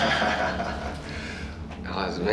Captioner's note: chuckles